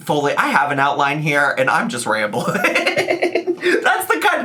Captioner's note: laughing